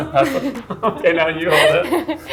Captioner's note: both laughing